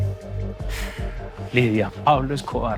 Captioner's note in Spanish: Él exhala